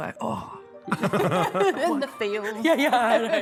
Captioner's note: laughter